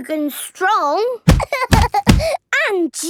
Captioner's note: banging